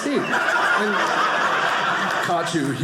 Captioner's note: audience laughing